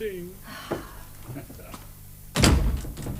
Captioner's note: chuckles